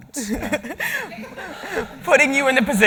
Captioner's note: laughing